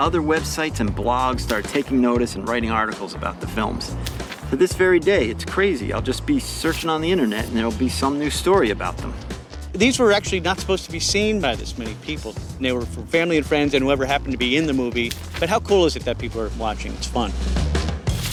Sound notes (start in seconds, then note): none